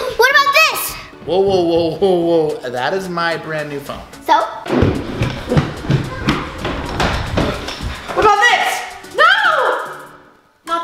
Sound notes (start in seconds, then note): 4.6 loud footsteps